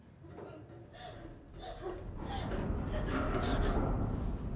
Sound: sobbing

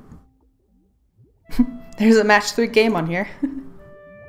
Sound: laughs

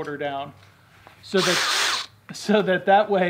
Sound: drill

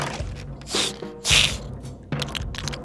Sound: sniffing

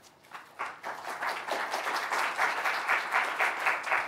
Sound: audience applauding

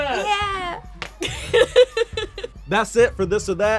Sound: laughing

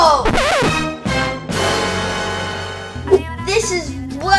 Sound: record scratches

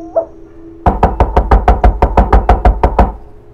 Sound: door knocking

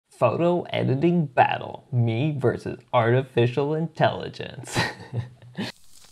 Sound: laughing

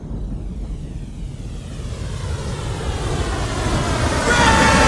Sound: rain starts pouring

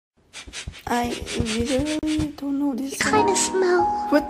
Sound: big sniff; sniff sniff sniff sniff sniff sniff sniff sniff

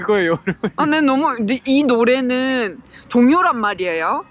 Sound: stammering

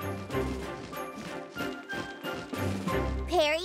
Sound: wings flapping

